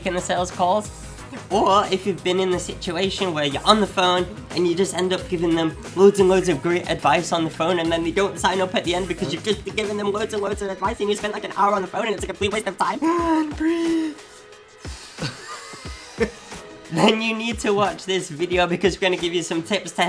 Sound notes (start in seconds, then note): 14.7 inhales deeply; 14.8 exhales slowly